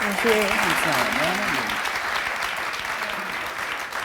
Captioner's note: applause